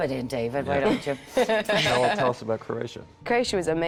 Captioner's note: laughing